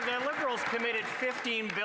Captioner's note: some Applause